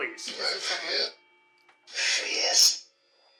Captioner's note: box mutters